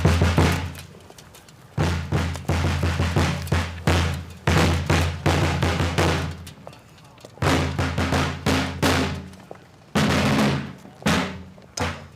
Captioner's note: shots firing